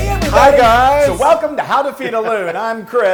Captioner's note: laugh